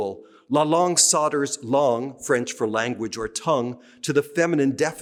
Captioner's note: speaking french